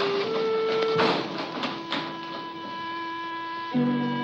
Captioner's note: cabin rustling